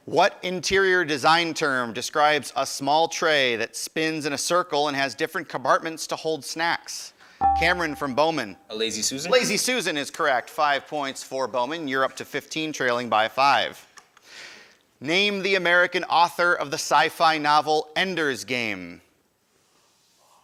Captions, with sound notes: What interior design term describes a small tray that spins in a circle and has different compartments to hold snacks? (ding) Cameron from Bowman. >> A lazy Susan? >> Lazy Susan is correct. Five points for Bowman, you're up to 15, trailing by five. Name the American author of the sci-fi novel "Ender's Game."